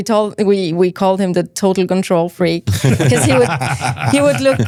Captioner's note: laughs